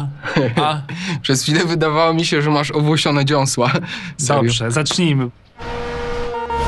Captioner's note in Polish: śmiech